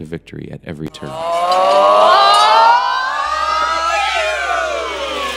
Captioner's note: class cheering